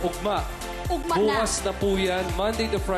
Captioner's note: in Bisaya